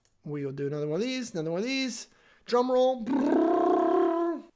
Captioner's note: imitates drums